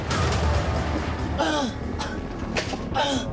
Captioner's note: gasps and coughs